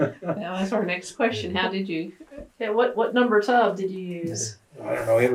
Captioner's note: laughter